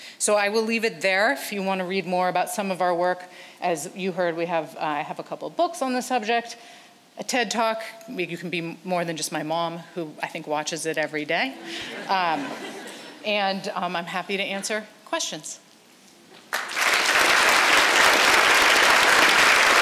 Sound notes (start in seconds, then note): 11.6 audience laughs; 16.4 audience applauds